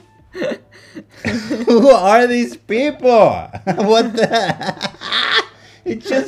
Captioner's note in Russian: смеётся